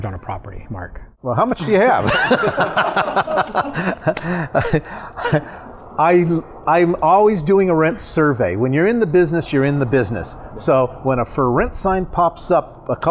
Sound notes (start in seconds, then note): 1.7 both laughing